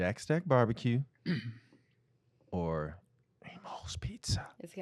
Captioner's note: whispering